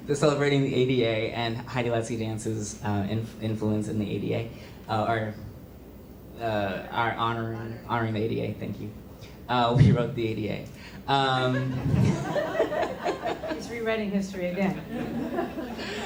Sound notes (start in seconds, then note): 11.4 laughter